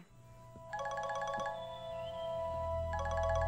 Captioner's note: Cell phone ringing